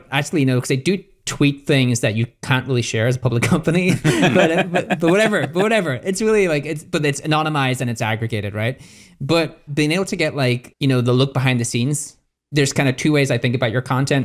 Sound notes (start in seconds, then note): 4.0 all laugh